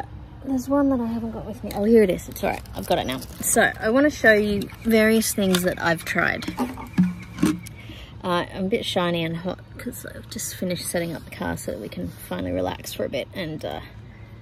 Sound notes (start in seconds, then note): 4.4 plastic bottles clank